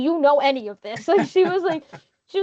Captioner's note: chuckling